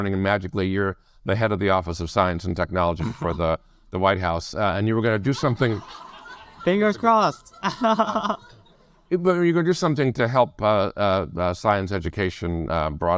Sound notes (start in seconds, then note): 5.3 audience laugh; 8.7 laughs